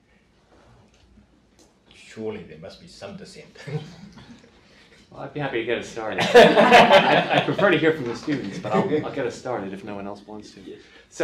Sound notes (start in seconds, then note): 6.1 group laughs